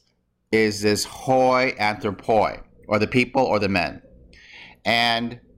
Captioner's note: speaking greek